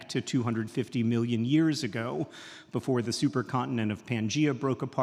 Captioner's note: none